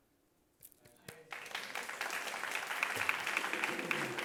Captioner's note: audience claps